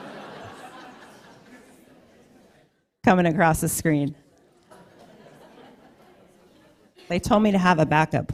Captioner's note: laughter